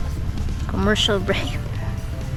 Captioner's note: chuckles